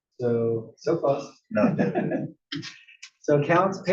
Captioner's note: laugh